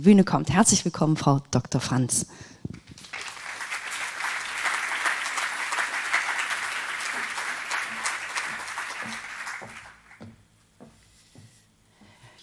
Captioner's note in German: applaus